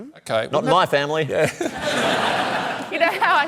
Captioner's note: laughter